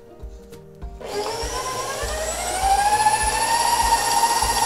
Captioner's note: whirring